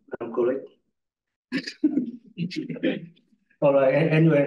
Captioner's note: audience chuckles